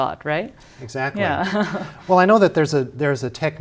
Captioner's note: laughter